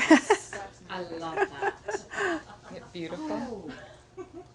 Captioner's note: laughing